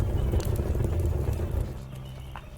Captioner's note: fire roaring